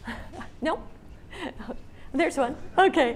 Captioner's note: laughs